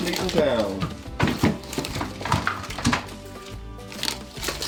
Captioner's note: meat clunks